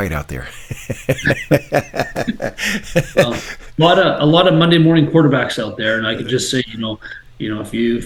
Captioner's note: laughing